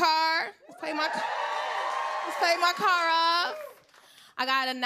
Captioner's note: cheers and applause